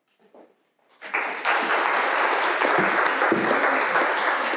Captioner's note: applause